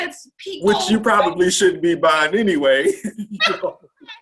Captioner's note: laughs